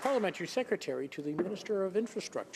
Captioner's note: applause